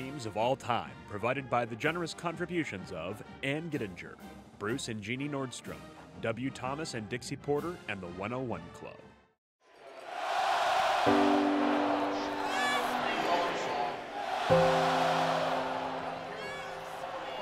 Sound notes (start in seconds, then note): 10.2 crowd sounds